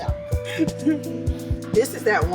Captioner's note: laughter